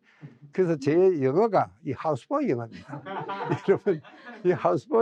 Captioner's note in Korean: 웃음